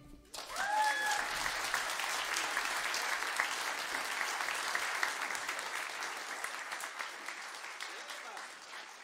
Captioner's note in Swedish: applåder